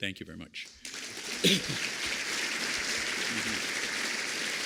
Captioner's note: applause